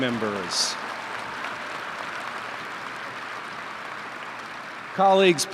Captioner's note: applause